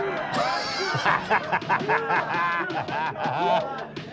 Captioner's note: Danny laughs